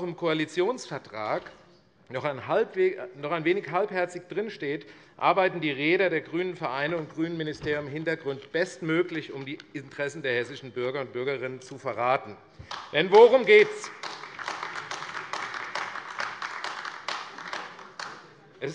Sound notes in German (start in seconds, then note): 12.6 Beifall AfD